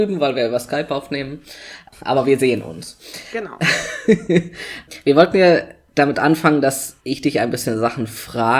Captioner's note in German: lacht